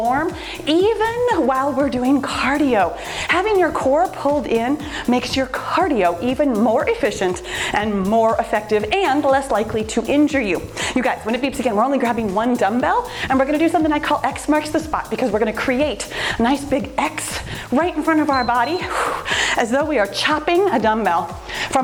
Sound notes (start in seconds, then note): 18.0 timer beeps